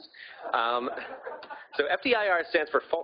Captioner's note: audience laughing